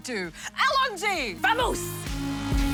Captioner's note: exclaims